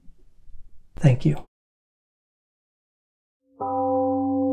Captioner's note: temple gong rings and fades